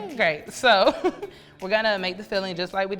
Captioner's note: laughs